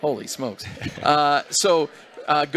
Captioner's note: laughter